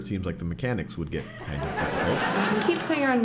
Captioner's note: laughter